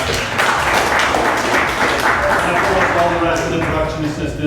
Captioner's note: applause